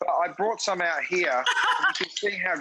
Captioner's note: Rachael laughs